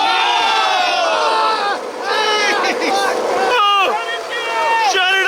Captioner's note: screaming